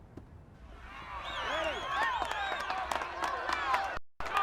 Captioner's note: crowd cheering